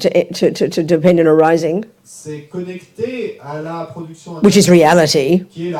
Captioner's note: audience member speaks in French